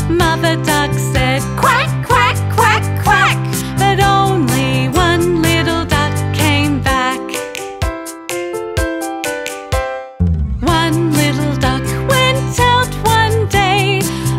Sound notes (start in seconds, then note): 7.4 fingers clicking; 7.5 gentle music continues